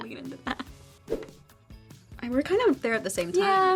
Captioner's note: graphics swoosh